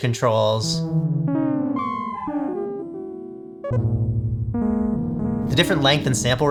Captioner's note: beepboops start to melt